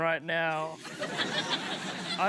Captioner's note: applause